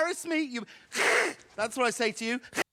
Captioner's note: hisses